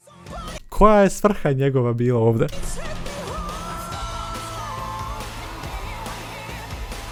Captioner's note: scream